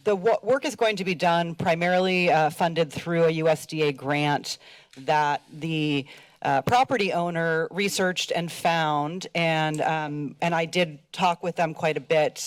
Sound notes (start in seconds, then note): none